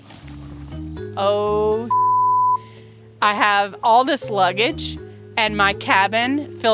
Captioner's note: beep